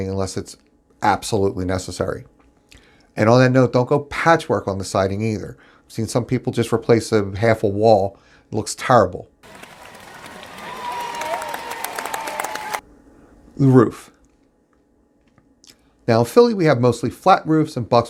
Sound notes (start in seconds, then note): 9.4 crowd cheering and applauding